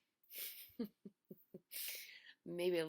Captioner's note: instructor laughing